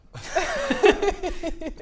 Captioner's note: unconvinced giggles